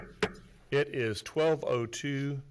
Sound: hits gavel

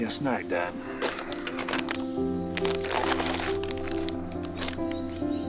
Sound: wrapper crinkling

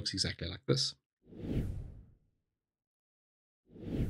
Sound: whoosh; whoosh

